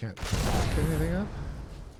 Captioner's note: gunfire